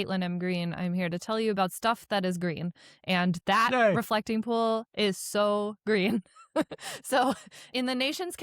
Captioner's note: chuckles